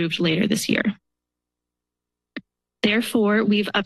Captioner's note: pause